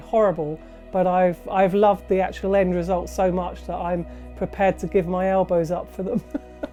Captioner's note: laughs